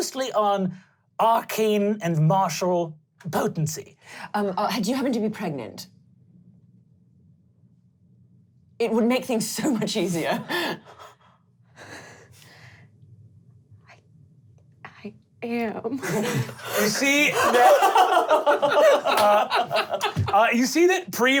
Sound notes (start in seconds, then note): 11.8 heavy breathing; 18.0 laughing